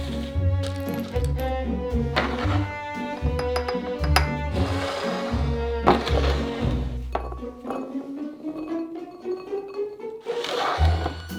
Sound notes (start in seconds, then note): 7.3 beans dropping